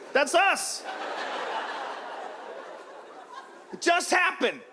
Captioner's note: audience laughs